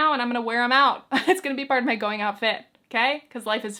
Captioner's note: chuckles